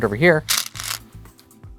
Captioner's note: stones rattling